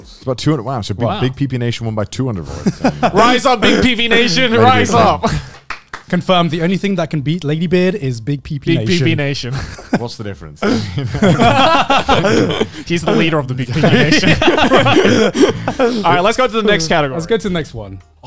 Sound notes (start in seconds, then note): 10.6 laugh; 13.6 everyone laughs